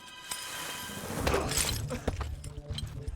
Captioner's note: thud; laughing